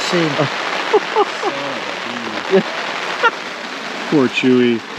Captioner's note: team member laughing